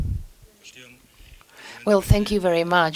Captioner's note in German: spanisch